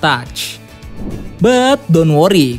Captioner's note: transition sound